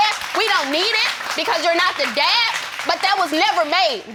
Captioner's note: audience applauding